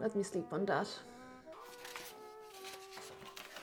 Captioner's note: sound of papers shuffling